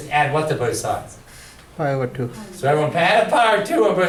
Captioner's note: voiceover